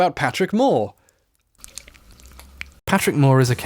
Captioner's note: horrifying licking noises